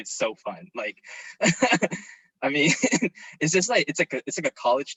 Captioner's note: chuckles